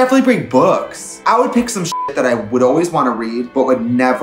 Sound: beep

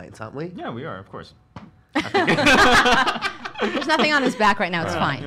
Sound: laughter

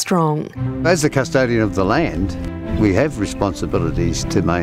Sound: voiceover

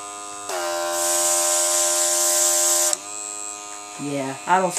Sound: airbrush spraying

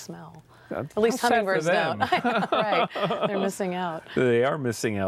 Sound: laughter

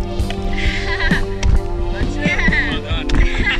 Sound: laughing

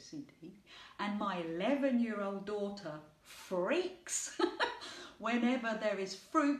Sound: laughing

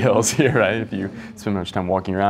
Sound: murmuring

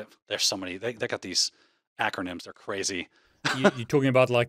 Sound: chuckles

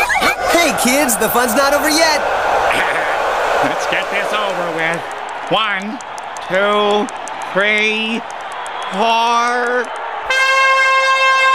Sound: Squlliam giggles

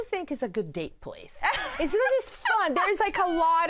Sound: laughs

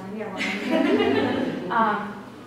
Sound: laughter

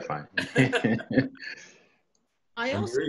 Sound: laughter

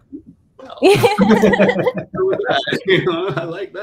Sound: all laughing

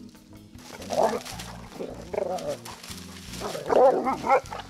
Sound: dogs growling

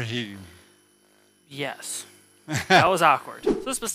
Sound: air whooshing

